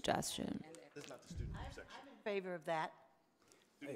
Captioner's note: speaks softly